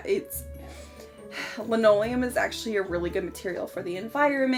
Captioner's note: sighs